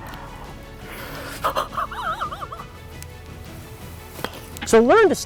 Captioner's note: laughing